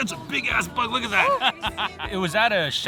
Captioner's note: laughing